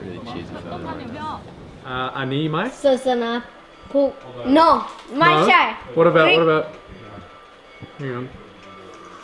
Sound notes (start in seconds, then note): 2.2 foreign language